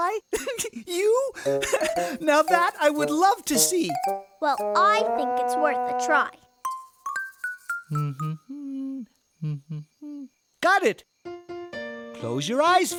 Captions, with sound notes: [ Giggle ] YOU? HAH, NOW THAT I WOULD LOVE TO SEE. WELL I THINK IT'S WORTH A TRY. [ Humming ] GOT IT. CLOSE YOUR EYES FIRST.